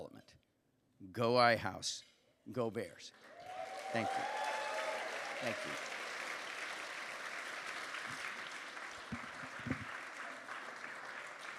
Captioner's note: applause